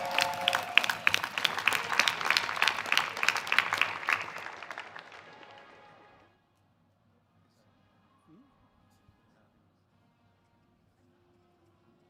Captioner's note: cheers and applause